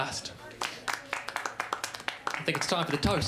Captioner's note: smattering of applause